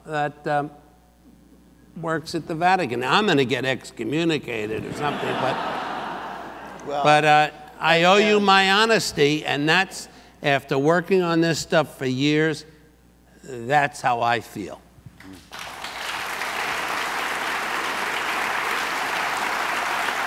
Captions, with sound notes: that works at the Vatican. Now I'm gonna get excommunicated or something but... (audience laughs) But I owe you my honesty, and that's after working on this stuff for years, that's how I feel. (audience applauds)